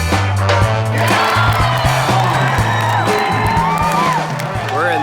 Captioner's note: crowd cheering